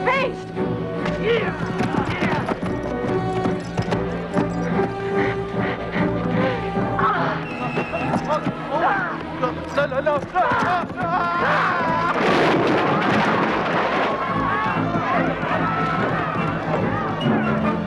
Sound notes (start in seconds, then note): 0.1 Hundra grunts; 5.0 Hundra panting; 9.8 villager shouting; 12.2 stall clattering; 14.3 townsfolk shouting